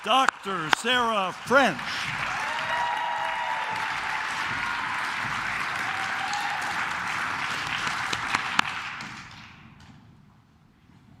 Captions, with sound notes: Dr. Sarah French. (claps)